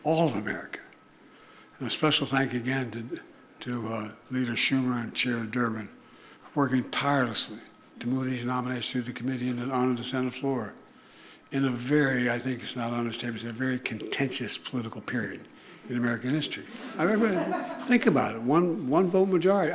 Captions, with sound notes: All of America. And a special thank you again to -- to Leader Schumer and Chair Durbin for working tirelessly to move these nominees through the committee and onto the Senate floor in a very -- I think it's not an understatement to say -- a very contentious political period in American history. (Laughter.) I -- but think about it. One -- one-vote majority.